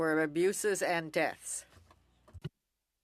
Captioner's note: speaking French